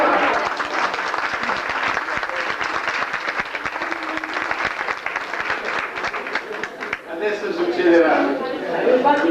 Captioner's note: applause